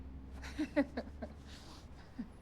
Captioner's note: women chuckling